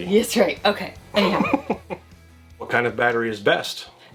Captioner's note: laughs